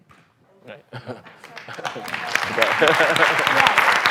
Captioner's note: applause